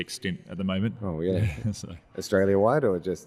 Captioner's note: chuckling